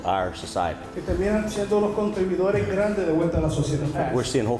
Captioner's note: interpreter speaking in Spanish